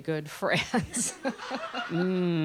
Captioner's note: laughter